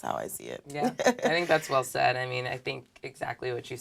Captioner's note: laugh